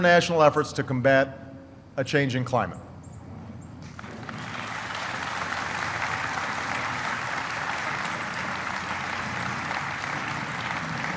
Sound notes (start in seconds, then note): 6.1 applause